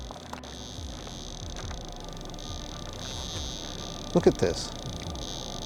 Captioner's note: eerie buzzing